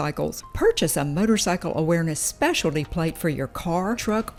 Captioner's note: none